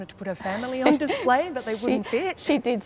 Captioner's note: laughs